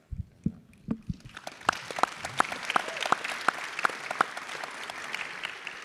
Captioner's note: audience and panelists clapping